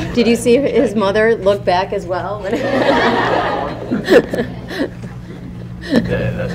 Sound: laughter

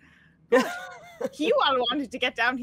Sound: all laughing

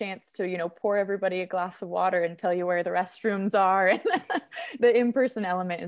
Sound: laughing

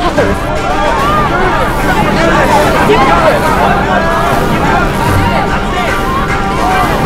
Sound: electrical crackling; students yelling excitedly

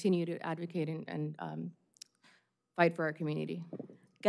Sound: speaking spanish

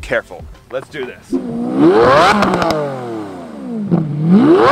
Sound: revving

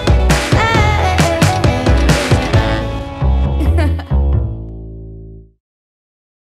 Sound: laughs

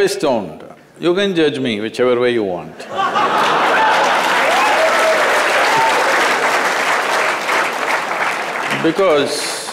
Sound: laughter

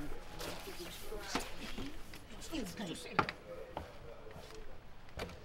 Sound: speaking away from mic

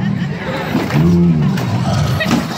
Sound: grunts

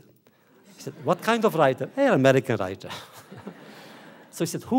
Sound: laughter

